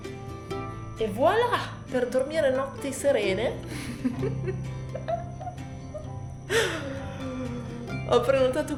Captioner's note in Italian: risate